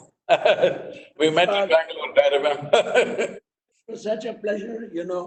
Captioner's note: laughs